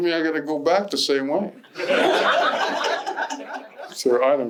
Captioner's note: laughter